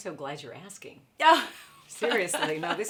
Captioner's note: laughs